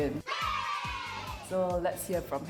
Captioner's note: crowd cheering